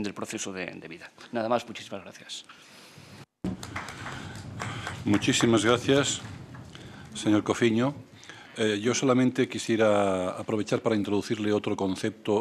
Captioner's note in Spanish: Aplausos